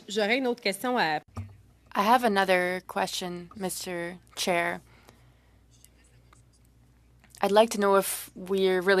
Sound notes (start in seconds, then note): 4.0 speaking French